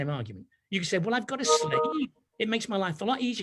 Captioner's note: notification ping